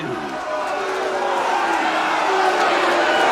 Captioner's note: audience jeering